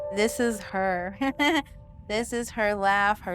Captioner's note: laughing